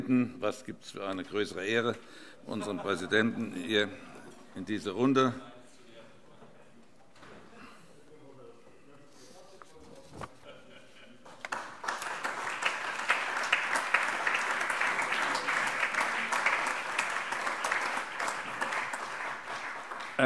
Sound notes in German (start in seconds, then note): 7.0 Allgemeiner Beifall